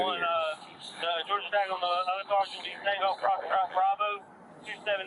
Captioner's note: radio chatter